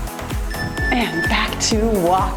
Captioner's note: timer beeps